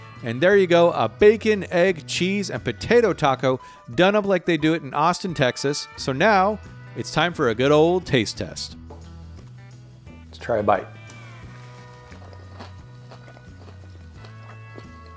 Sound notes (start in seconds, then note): 11.0 munching